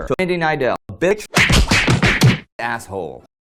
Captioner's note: punching noises